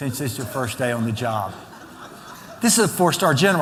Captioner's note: laughter